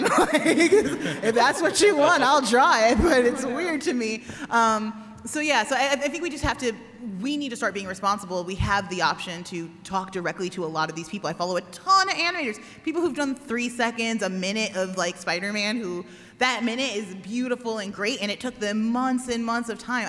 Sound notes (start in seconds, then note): 3.6 laughter